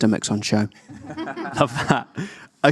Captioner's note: audience laughing